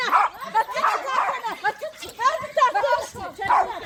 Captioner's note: laughter